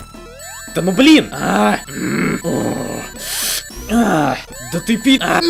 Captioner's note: angry grunts; more angry noises